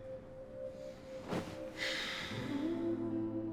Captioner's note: sigh